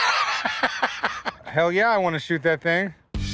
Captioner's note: laughs